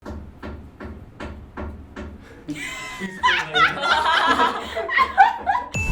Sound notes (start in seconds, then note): 0.0 tapping noise; 4.4 laughs